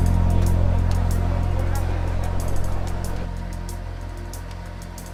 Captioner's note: indistinct background chatter